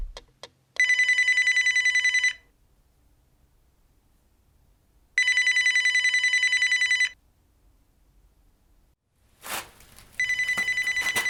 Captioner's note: phone ringing